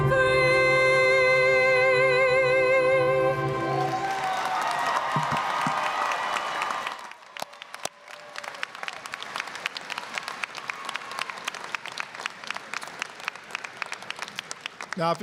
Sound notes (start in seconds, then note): 3.5 applause, cheering; 11.8 applause